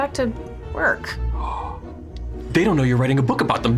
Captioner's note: gasps